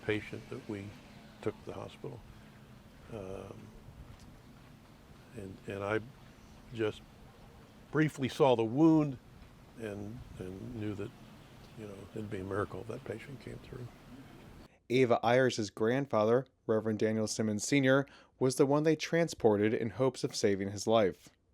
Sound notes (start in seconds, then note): none